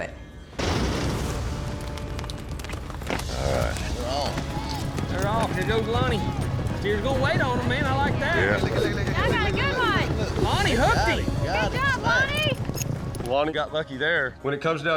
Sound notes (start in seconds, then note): 0.1 hoofbeats; 8.1 all shouting